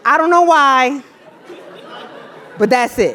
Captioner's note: laugh